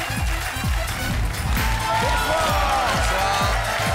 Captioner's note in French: applaudissements